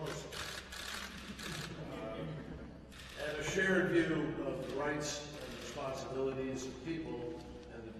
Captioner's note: laughter